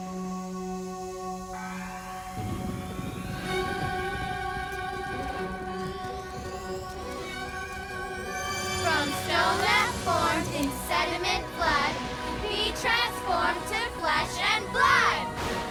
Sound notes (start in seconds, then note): none